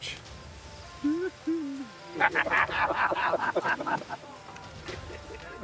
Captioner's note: men laughing